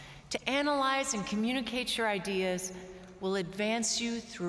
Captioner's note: none